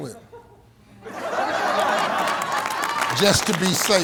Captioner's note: audience laughing